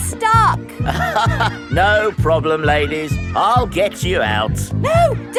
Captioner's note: chuckles